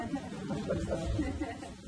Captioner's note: laughter